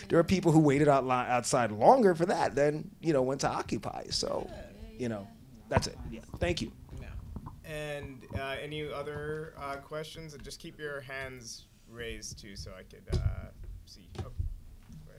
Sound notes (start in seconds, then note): none